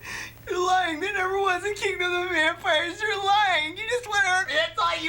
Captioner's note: cries